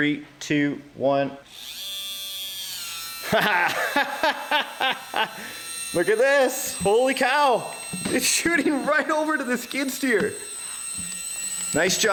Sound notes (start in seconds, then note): 1.7 engine whirs; 3.2 laughs